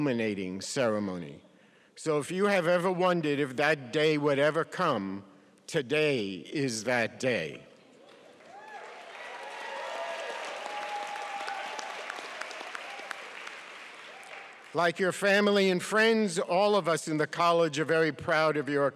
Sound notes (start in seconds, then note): 8.3 cheering